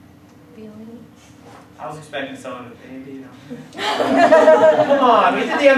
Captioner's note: class breaks out into laughter